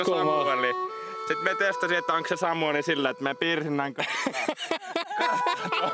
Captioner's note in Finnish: naurua